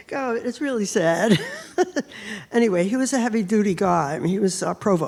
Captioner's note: laughs